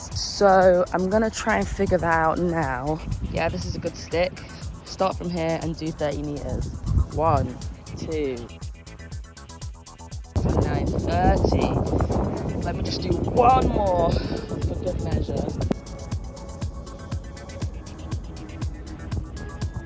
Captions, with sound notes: So I'm going to try and figure that out now. Yeah this is a good stick. Start from here and do 30 meters. One, two... (upbeat music) 29, 30. (wind blowing) Let me just do one more for good measure. (soft upbeat music)